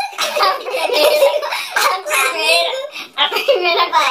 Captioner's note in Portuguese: risos